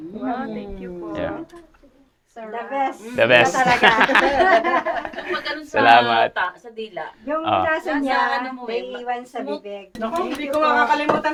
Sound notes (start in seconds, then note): 3.4 laughs